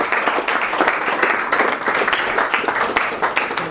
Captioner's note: applause